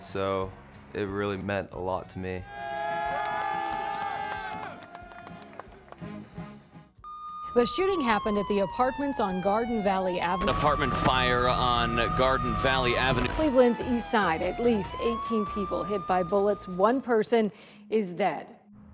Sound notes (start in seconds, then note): 2.4 everyone cheers